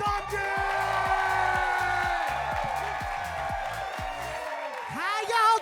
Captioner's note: upbeat music continues; audience cheering